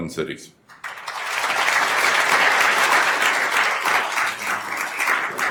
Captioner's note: attendees applauding